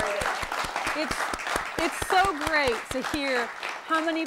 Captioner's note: applause